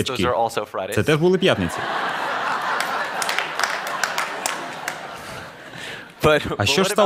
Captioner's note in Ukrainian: Сміх